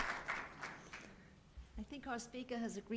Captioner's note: applause